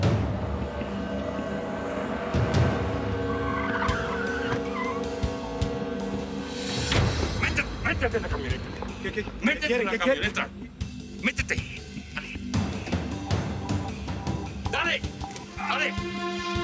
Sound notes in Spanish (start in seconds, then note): 1.9 chirrido de llantas